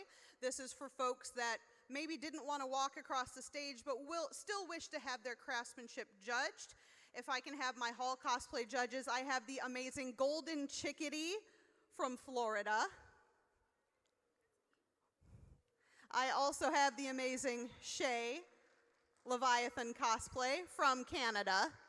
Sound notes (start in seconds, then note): none